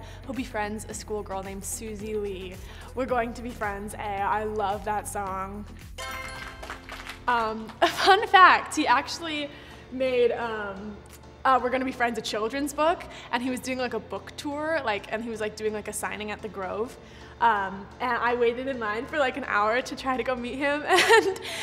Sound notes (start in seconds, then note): 6.2 applauding